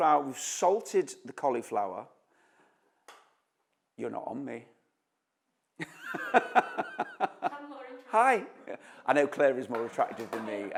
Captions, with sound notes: we’ve salted the cauliflower-- You’re not on me. [laughs] Hi, I know Claire is more attractive than me,